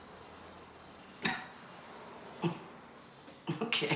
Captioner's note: coughing